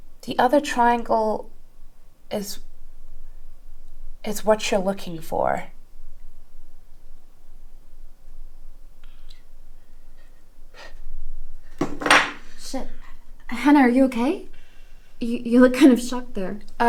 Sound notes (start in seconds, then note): 11.8 glass thuds